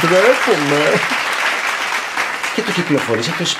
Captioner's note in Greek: χειροκροτήματα